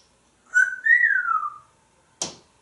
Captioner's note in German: whistling